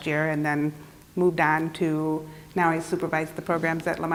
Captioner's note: none